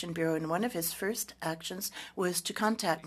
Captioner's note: speaking French